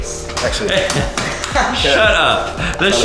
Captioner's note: laughs